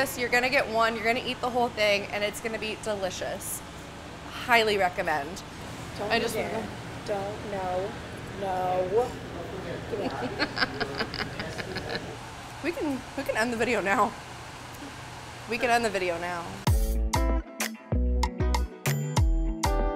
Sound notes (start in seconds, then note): 10.0 laughing; 16.7 bright guitar music